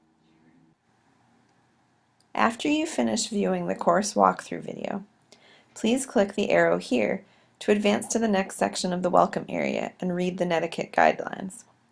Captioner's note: click